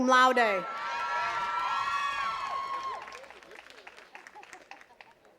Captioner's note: attendees cheering and clapping